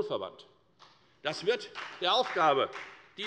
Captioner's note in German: Beifall bei der FDP